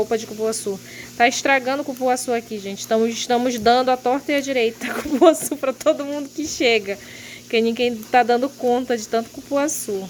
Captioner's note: laughs